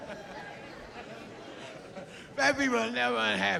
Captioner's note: laughs